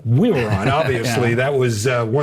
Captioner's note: chuckles